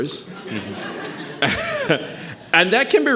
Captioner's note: audience chuckling